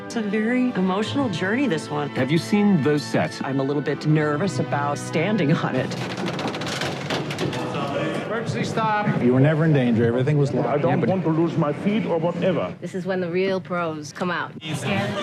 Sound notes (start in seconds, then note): 5.9 machinery clicking